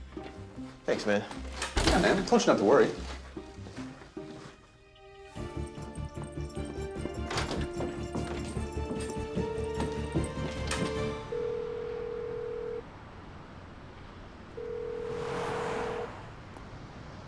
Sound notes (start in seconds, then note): 11.1 line ringing; 14.6 ringing continues